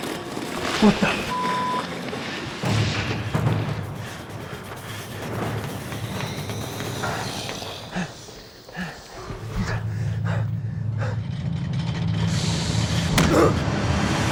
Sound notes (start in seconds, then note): 7.1 creature hissing; 9.9 rumbling; 13.0 grunts